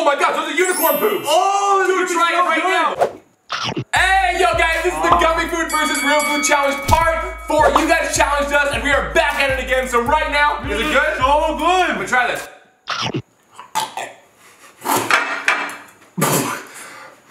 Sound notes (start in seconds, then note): 3.1 crunching; 13.0 crunching; 13.0 spitting